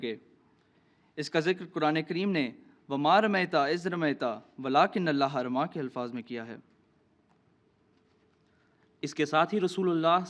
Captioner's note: Arabic